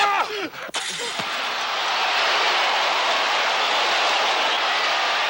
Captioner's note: crowd cheers